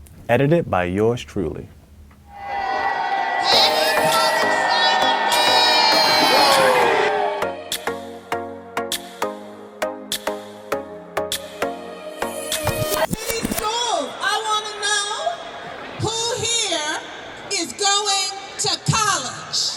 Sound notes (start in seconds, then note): 2.3 cheering; 4.1 upbeat instrumental; 19.5 cheering